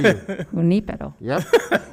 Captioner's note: speaking foreign language